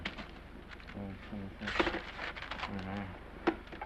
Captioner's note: page tears